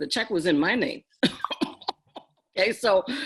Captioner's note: laugh